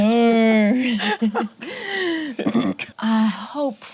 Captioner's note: group laughs